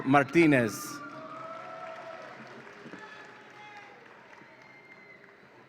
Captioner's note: audience applauds and cheers